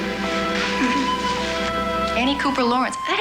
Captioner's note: birds chirping